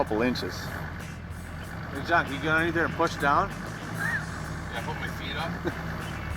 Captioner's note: laughing